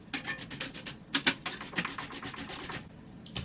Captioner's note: brushing sounds